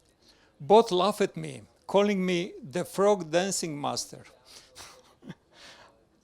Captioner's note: laughs